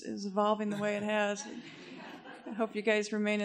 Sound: laughter

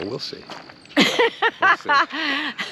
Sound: laughing amusingly

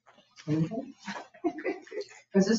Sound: chuckles

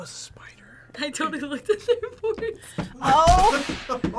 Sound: laughs

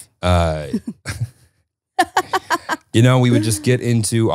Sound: laughing

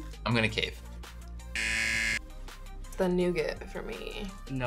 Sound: buzzer

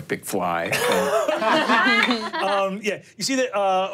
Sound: laughing

